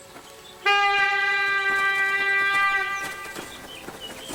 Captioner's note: A hunting horn blows